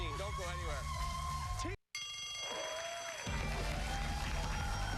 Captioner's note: bell rings; cheers and applause